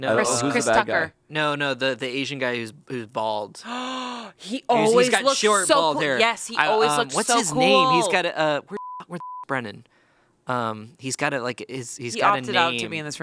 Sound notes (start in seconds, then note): 3.6 gasps; 8.7 beep